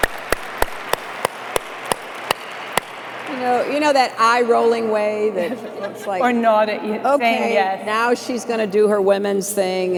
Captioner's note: applause